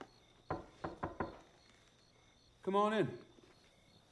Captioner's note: knocks